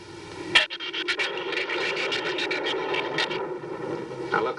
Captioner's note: shrews chattering